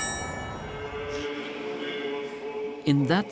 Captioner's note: liturgy in Ukrainian